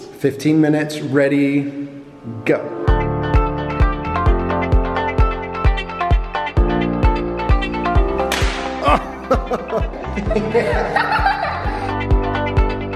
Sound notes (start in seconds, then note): 3.0 upbeat music; 8.3 bang; 8.8 laughing